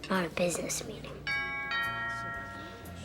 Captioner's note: door bell rings